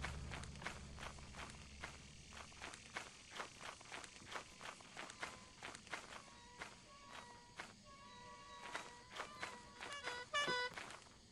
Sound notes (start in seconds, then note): 6.3 distant honkage